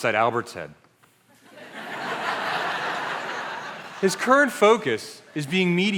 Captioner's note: laughter